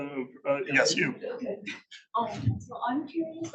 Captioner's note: laughs